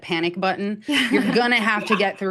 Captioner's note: laughs